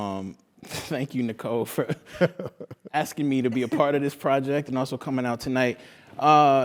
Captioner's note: laugh